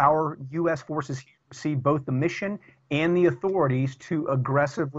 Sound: audio corruption

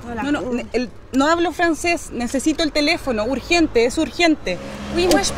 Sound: in spanish

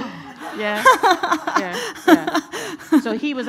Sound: laughing

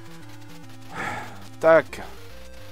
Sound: sigh

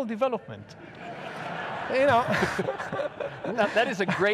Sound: audience laughs

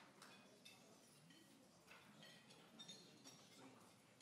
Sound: people chatting

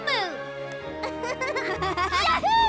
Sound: both chuckle

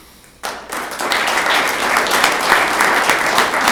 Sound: room applauds

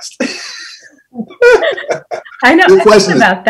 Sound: laughs loudly

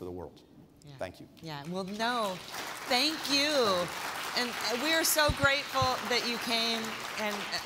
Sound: applause

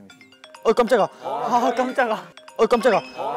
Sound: Jarvis' call breaks the silence

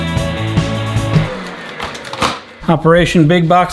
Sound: vacuum turning off

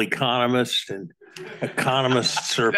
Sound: audience laugh

